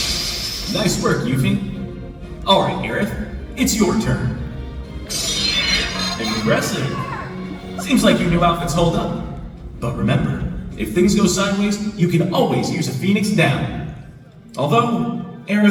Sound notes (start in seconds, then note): 0.0 battle noise; 5.0 battle noise